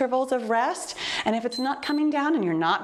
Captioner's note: timer beeps